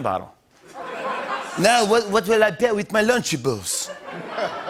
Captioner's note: French accent; laughter